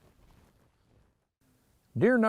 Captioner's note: footsteps crunching